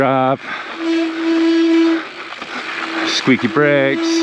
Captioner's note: brakes squeak